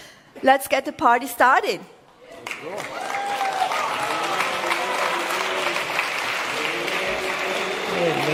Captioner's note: cheering/Applause